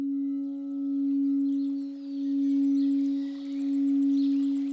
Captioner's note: birds twitter, water trickles